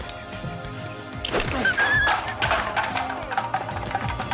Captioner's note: grunting